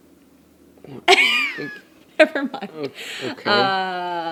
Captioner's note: woman laughing